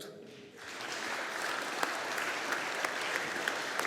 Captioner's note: audience applauding